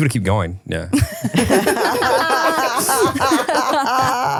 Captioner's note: all laughing